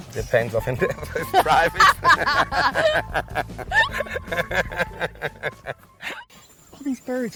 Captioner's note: laughing